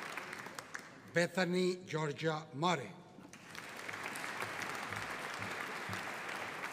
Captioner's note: audience applauding